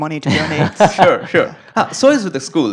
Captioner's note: laugh